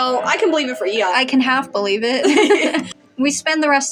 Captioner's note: both Laugh